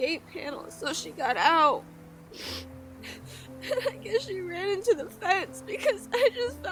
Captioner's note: sobs